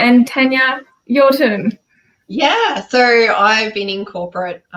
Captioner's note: laughs